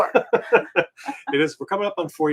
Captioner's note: both laughing